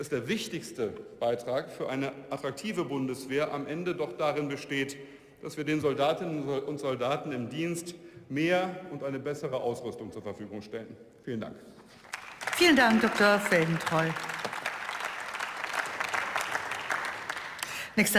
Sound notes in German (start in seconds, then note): 11.9 Beifall